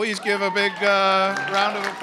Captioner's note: cheering